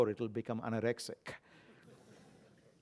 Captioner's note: laugh